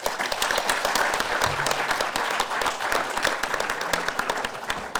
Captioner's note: audience applause